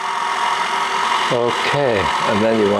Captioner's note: whirring continues